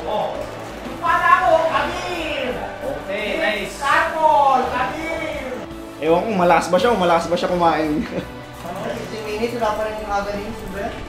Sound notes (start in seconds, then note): 7.9 laughter